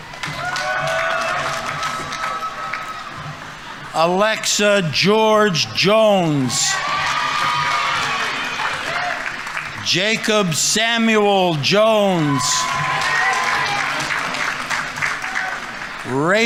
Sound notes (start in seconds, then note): 0.2 audience applauding; 0.2 audience members cheering; 7.0 audience applauding; 7.0 audience members cheering; 12.6 audience applauding; 12.6 audience members cheering